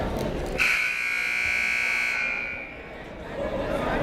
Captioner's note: buzzer blares